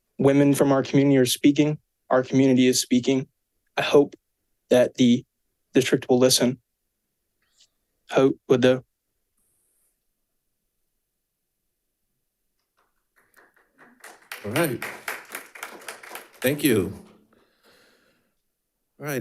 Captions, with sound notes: Women from our community are speaking, our community is speaking. I hope that the district will listen (speaks in foreign language). (audience applauding) - All right, thank you.